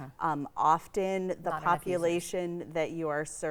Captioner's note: speaks faintly